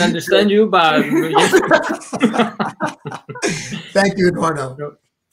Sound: laughing

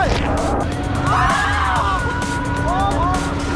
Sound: screaming from coldness

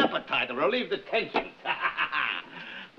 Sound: laughing

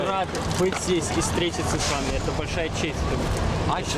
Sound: non-english speech

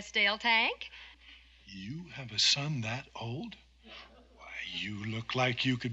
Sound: chuckling

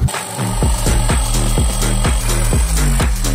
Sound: saw buzzing

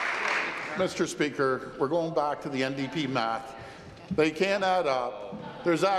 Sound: applause

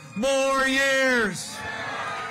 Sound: cheering and applause

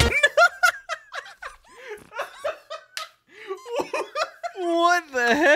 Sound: laughing

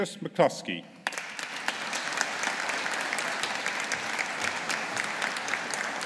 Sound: audience applauding

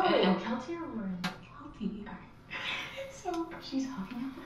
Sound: both laugh

